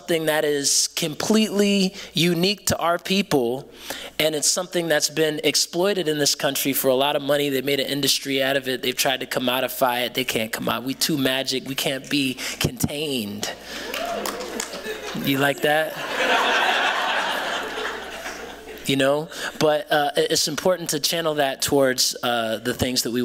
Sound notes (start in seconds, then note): 13.8 cheering; 15.9 laughter